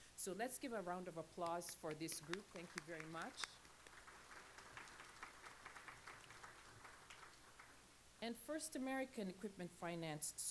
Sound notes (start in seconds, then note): 4.0 applause